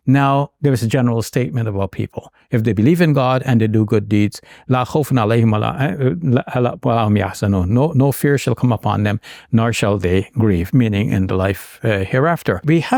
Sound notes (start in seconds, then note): 4.7 speaking in Arabic